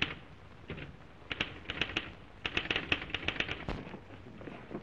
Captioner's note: typewriter keys clacking